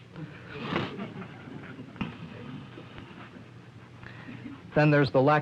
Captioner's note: laughter